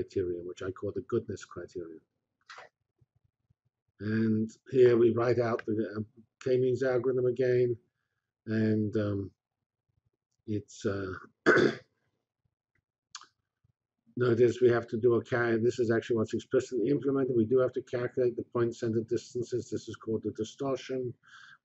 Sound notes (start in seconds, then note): 8.5 pause